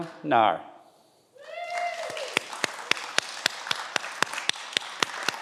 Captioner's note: everyone applauds